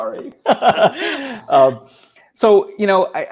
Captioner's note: laughing